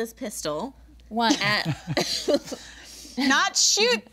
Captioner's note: group laughing